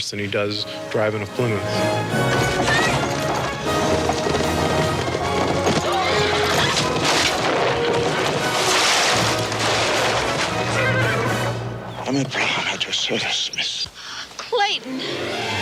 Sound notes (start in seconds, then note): 8.1 carriage crashes